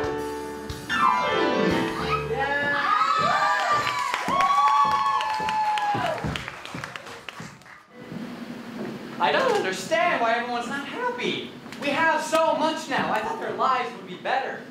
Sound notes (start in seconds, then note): 1.9 audience cheering